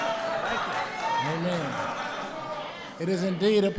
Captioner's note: applause